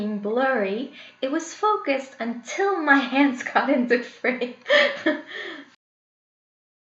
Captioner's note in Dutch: lacht